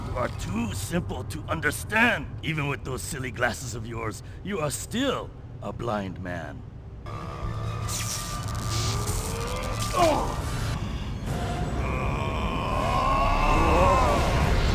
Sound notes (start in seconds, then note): 7.3 dramatic music plays; 7.6 electric power crackles; 10.2 Ivan grunts